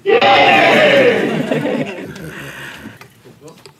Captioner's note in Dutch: gelach